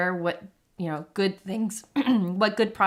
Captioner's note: coughs